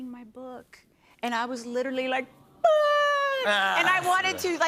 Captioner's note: sobs